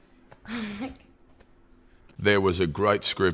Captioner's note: laughs